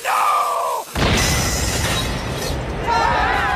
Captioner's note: screaming; exploding; cheering